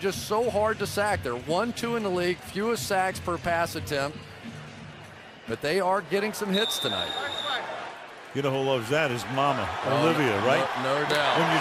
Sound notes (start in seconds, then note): 6.5 whistle